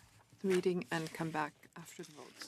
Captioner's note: speaking French